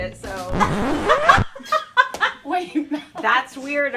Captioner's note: laughter